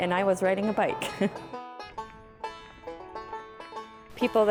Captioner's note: chuckles